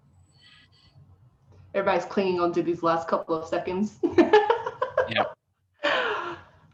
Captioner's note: laughing